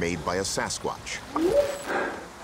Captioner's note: whooping sound